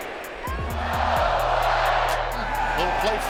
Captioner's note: energetic music; crowd shouting